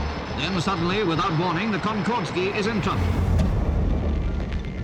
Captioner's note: radio voice